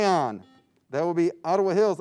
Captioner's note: buzzing sound